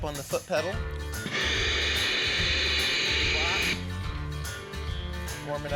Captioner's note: steam whooshing sound